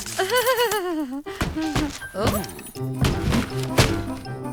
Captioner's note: stomping